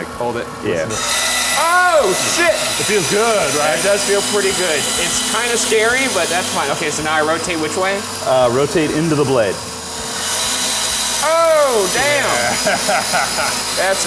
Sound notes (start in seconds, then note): 10.3 saw whirring; 12.0 chuckling